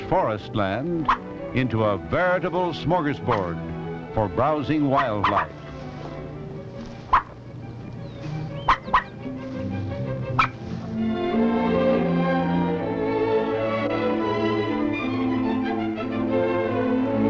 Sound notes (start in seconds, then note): 8.4 barking; 10.5 upbeat instrumental music